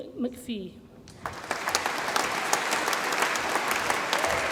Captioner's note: audience applauds